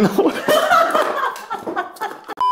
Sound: laughing

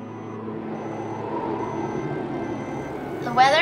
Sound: wind blowing

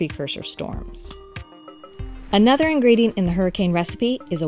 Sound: bell dinging

